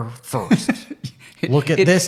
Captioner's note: laughing